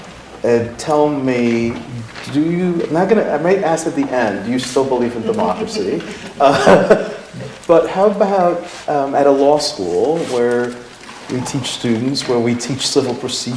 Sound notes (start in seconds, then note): 5.2 laughter